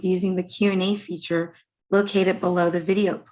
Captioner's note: none